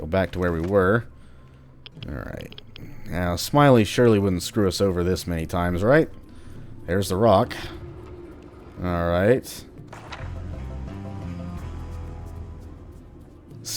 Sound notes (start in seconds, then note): 6.8 rock sliding